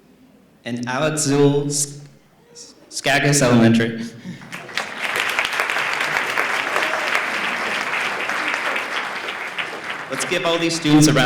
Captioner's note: applause